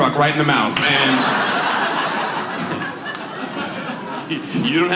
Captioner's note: audience laughs